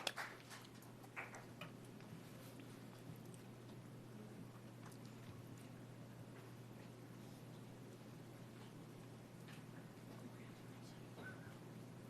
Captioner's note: applause